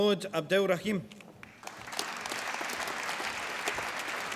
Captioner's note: applause